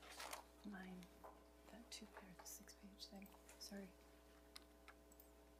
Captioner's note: pat